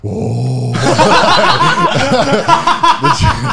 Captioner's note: laughing